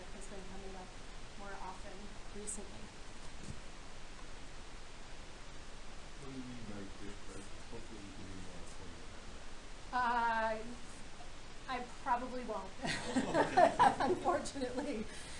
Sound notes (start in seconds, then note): 6.3 man speaking; 12.8 laughing